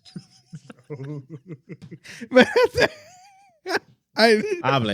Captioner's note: laughing